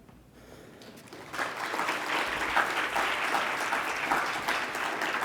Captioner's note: congregation clapping